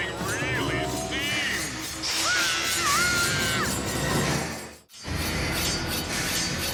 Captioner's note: Captain Flamingo screams